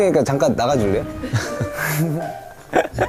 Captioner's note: haha